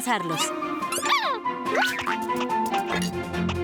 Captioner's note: squeaking